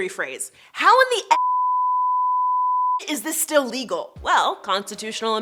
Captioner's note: beeps